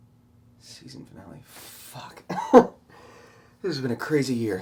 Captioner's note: riendo